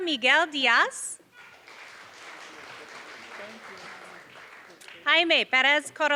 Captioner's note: applause